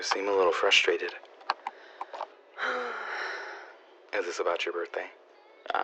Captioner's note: sighs